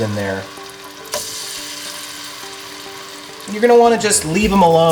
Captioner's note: tofu sizzles